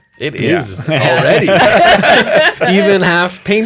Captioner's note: laughter